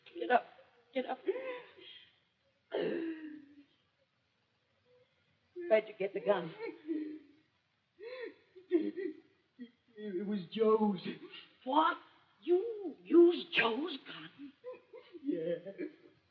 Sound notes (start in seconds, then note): 2.7 sobs; 8.0 sobs